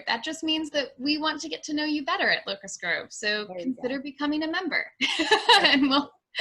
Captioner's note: laughs